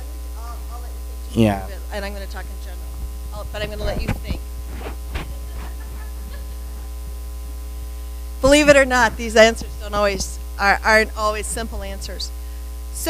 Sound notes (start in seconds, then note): 5.3 audience members laugh